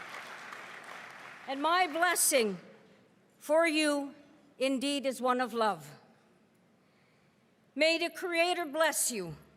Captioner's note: cheering and applause